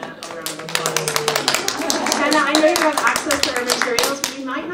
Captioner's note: audience applauds